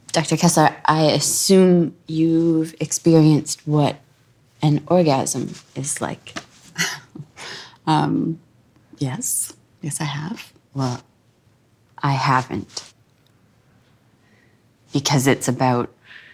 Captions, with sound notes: Dr. Kessler, I assume you've experienced what an orgasm is like? [Laughter] Um. Yes. Yes, I have. Well. I haven't. Because it's about